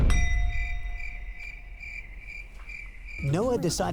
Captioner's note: crickets chirping